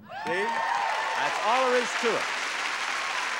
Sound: audience cheering; audience applauding

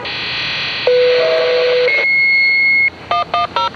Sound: Station 10 Fire Tone

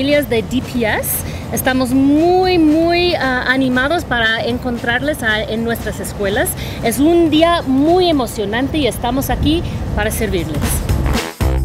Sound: speaks Spanish

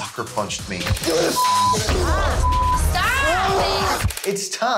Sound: woman screaming

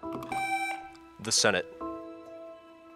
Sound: buzzer beeps

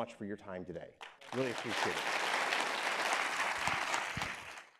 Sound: audience applauding

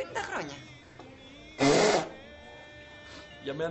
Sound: nose blowing

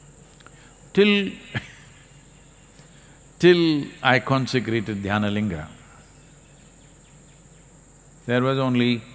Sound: laughs

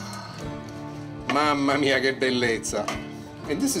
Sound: in Italian

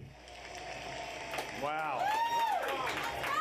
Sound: applause

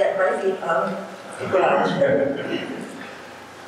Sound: audience laughing

